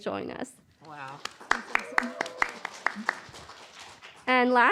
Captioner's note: applause